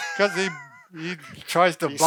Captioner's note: laughs